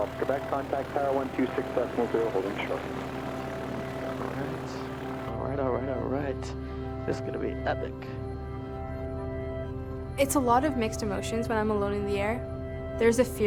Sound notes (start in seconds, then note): 3.0 engines rumble